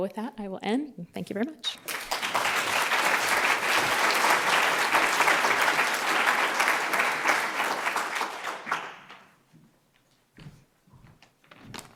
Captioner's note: applause